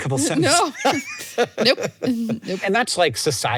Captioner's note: both laugh